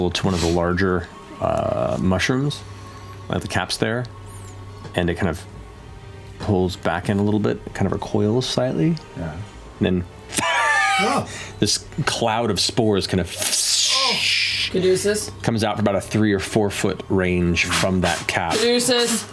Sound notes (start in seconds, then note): 10.4 wheezes